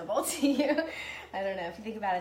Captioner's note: laughs